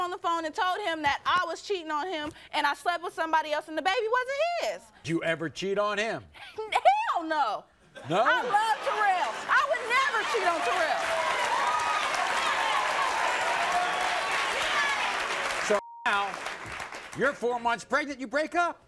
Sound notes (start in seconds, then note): 11.2 audience cheers and applauds